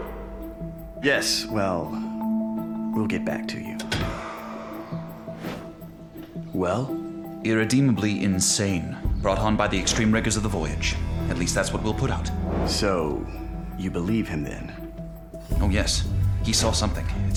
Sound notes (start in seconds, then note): 3.8 door closes